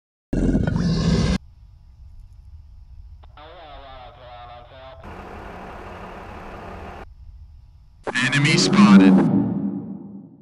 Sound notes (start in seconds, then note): 0.3 creature growling; 3.2 military radio noises; 5.0 heavy vehicle moving noises